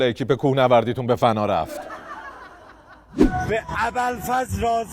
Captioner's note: laughter